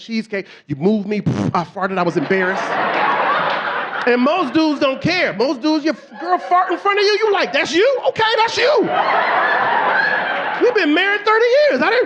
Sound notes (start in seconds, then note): 1.3 farts; 3.9 audience laughing; 10.4 audience laughing